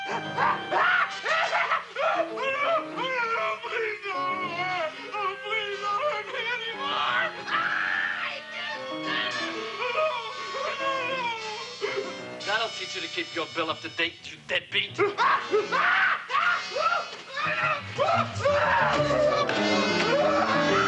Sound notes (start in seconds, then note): 0.3 man screaming; 15.7 screaming; 17.2 screams